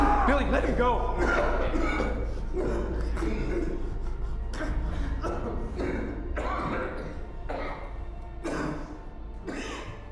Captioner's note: coughs